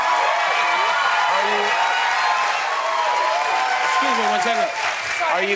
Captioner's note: cheers and applause